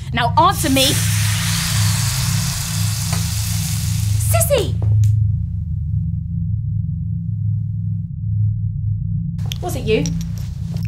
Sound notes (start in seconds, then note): 0.7 flesh sizzling; 5.7 soft tinkling; 5.7 tense music